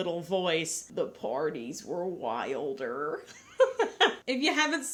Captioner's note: laughs